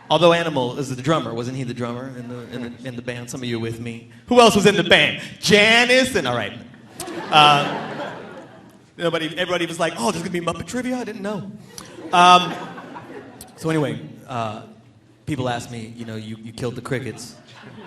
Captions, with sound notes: Although Animal is a drummer. Wasn't he the drummer in the band? Some of you are with me. Who else was in the band? Janice and... All right. Everybody was like, "Oh! There's gonna be a "Muppet" trivia? I didn't know." (audience laughing) So anyway, people ask me, "you killed the crickets,